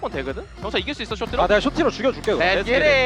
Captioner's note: BuZz